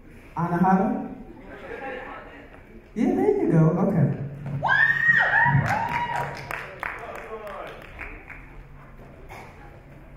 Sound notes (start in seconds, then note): 4.6 girls scream